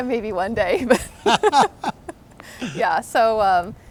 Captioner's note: both laughing